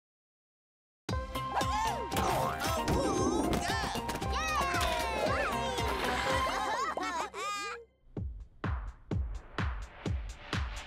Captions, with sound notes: - Woo-hoo! - Awooga! (cheering) (rhythmic music)